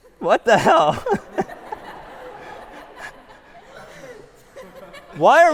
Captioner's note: laughter